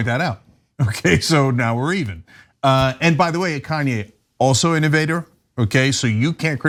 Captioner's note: laugh